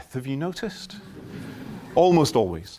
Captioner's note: laughter